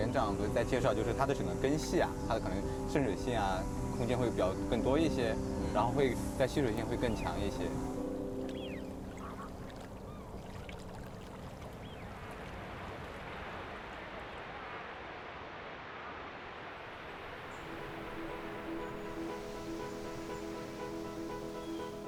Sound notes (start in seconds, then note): 12.8 traffic noise; 21.8 speaking Chinese